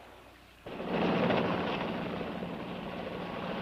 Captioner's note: plane rumbling